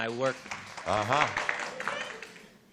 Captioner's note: applause